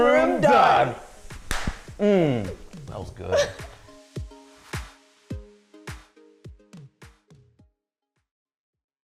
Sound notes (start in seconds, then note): 1.2 hands slapping; 3.3 laughs; 5.4 inspiring music